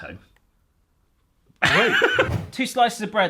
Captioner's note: laughs